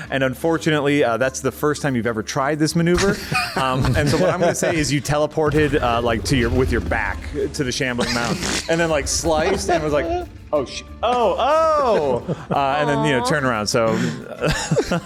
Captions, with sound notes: Unfortunately, that's the first time you've ever tried this maneuver. [laughter] What I'm going to say is you teleported with your back to the shambling mountain, and then like sliced and was like, "Oh, oh, oh," and then turnaround.